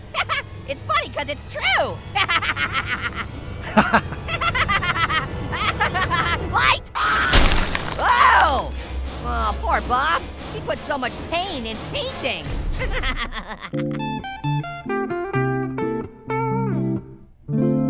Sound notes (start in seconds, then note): 0.3 laughing; 4.8 laughing; 7.3 glass breaking; 13.0 laughing; 14.0 mellow guitar music